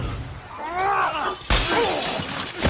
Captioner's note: Cassian grunting; glass crashing; Syril groaning